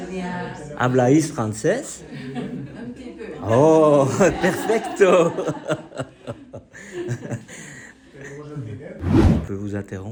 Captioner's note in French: rires